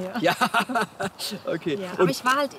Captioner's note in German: lacht